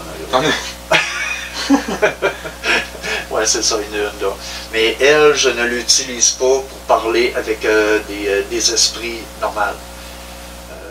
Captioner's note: laughs